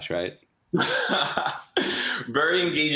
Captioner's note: laughing